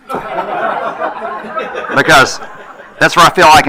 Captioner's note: attendees laughing